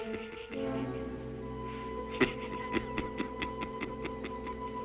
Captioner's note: Robert laughing